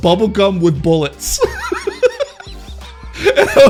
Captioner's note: laughs